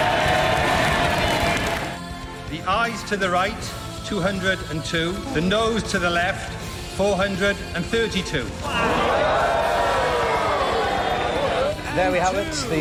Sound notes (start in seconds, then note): 0.0 crowd cheer; 9.9 crowd cheers